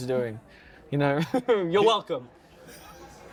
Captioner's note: laughs